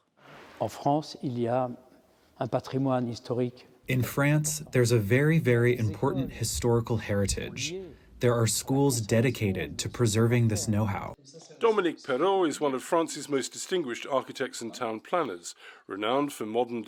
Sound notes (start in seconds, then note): 4.8 speaking french